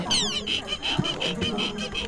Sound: pat

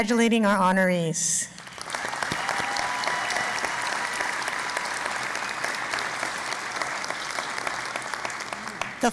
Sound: cheering and Applause

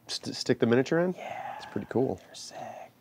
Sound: whispering

